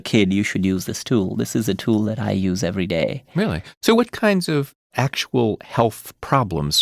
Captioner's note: none